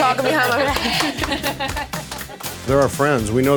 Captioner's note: laughing and applauding